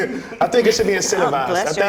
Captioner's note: laughter